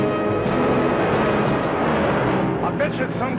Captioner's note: suspenseful music; engine whirring